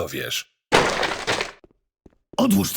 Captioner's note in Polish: huk wykopywanych drzwi